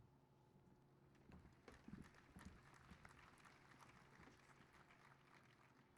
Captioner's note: applause